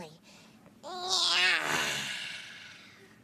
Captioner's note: yawns